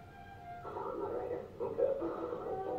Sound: static sounds playing

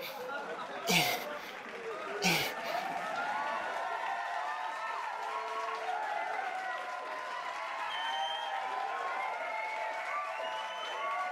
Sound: crowd cheering and clapping

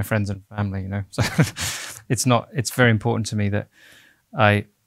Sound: laughing

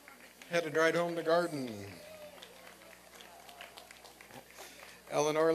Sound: applause and cheering

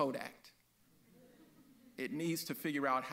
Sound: audience laughs

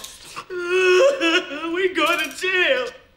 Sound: crying

